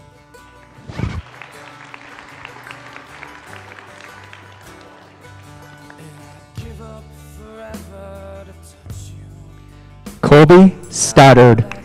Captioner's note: applause